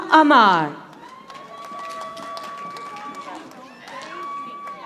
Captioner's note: audience applauding